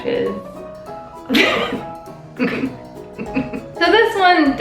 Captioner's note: laughing